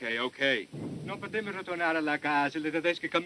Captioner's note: speaking italian